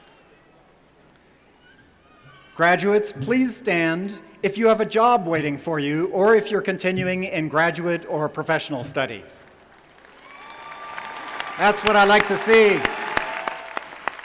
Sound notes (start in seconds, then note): 9.8 cheering and applause